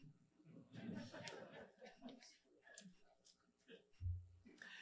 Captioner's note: audience chuckling